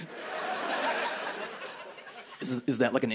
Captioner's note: laughter